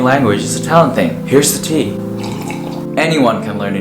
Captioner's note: sip of tea